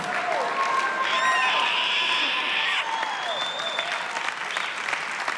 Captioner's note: screeches, mimics thudding; applause; screeches